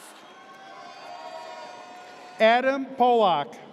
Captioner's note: audience cheers